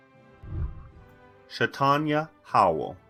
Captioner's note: whooshing